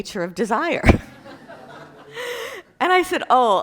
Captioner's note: class laughing